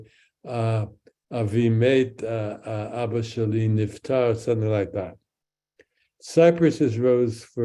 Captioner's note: speaks in Hebrew